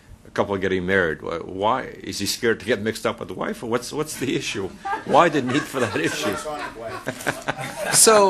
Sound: laughter

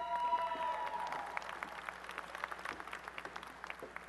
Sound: applause and cheering

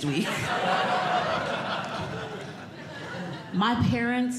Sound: audience Laughing

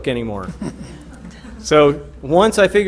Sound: laughter

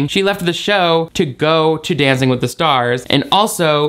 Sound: none

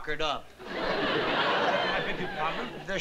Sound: laughter

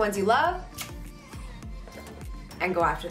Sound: lips smooch

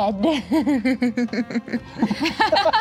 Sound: giggling; laughing

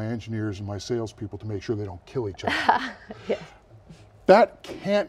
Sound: laughs

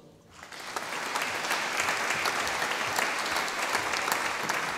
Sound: audience applauding

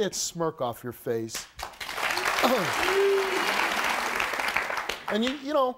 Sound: audience applauding

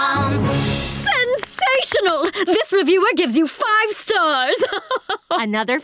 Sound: chuckles

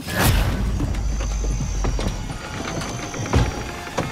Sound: boards creaking

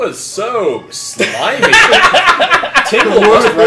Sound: cracks up

